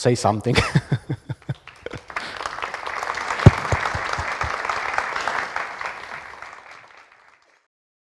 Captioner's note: applauds